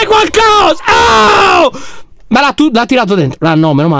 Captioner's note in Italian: urla